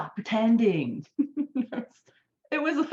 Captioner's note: person laughing